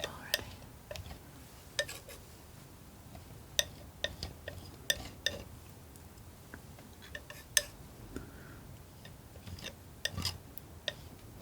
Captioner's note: tapping